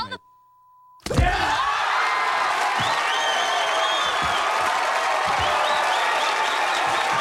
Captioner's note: hit thuds; audience cheering